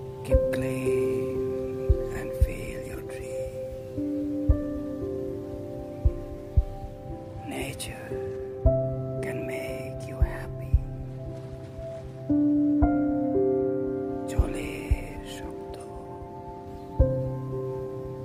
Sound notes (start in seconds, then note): 15.9 sound of water